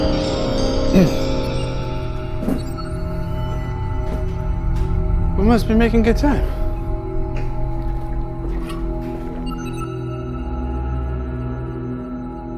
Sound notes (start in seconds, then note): 0.9 Jack groans